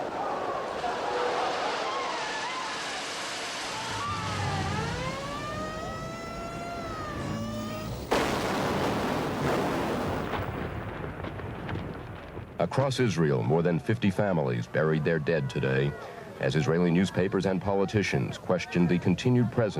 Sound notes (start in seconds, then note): 5.5 siren wailing; 8.7 weapon firing